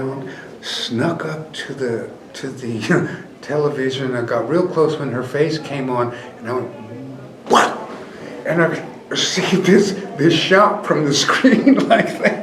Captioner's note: pow; laughs